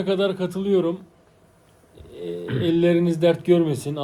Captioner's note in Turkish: boğazını temizler